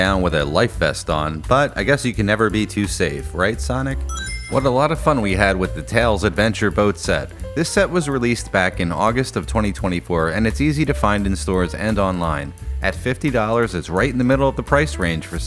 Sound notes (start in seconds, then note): 4.0 Sonic Ring Chime